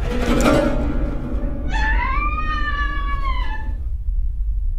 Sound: pained scream

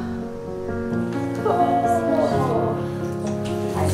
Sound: moaning noises

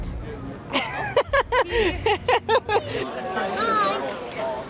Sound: laughter

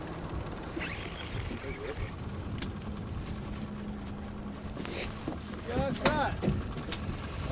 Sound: reel spinning

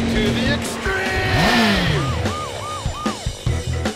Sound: siren wails

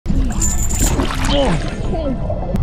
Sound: water splashing; anchor clacking; grunts

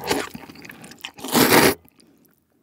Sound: slurp

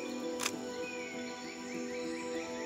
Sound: camera clicks

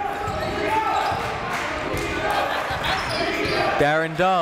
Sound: crowd

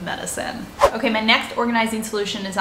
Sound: air whooshing

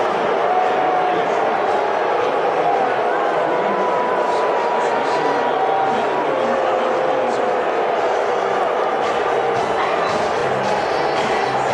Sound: boos

